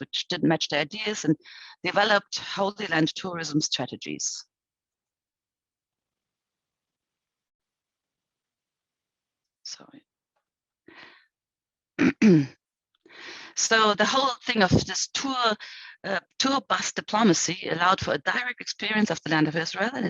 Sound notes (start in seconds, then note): 12.0 clears throat